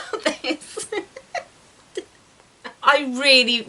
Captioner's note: laughs